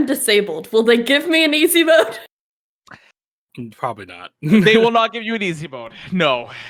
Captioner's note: laughs